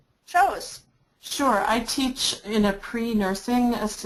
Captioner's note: voiceover